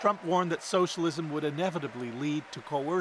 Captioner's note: cheers and Applause